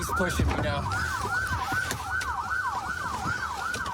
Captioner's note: sirens blaring